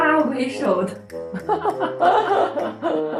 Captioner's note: haha